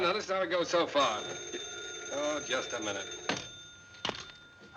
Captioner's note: phone ringing